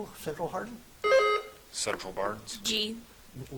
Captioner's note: buzzer chiming